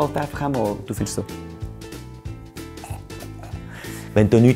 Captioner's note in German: Kotzgeräusche